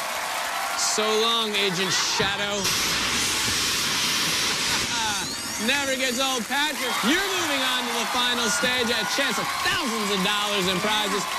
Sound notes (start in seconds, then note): 2.5 laughs